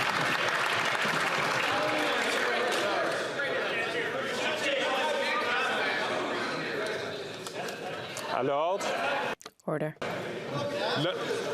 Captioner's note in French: applaudissements